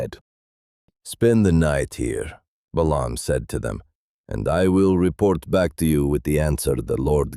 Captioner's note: calmly